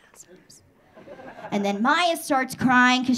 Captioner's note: audience laughing